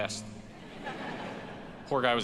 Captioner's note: audience laughs